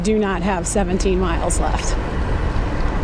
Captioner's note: none